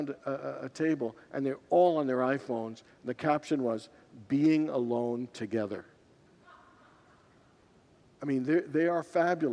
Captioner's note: congregants laugh